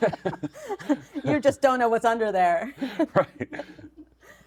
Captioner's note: laughing; laughs